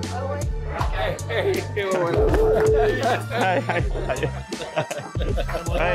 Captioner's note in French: rires